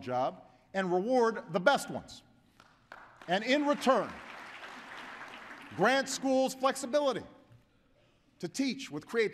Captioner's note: applause